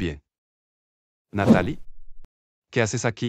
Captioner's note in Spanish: FX - Whoosh - 03